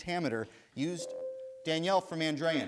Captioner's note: bell rings